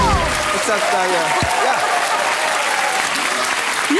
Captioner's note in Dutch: applaus